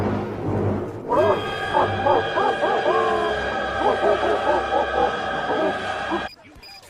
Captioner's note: blaring horns; horrifying screaming; pyro laughs like a demon